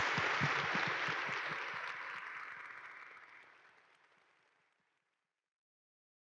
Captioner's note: audience appalud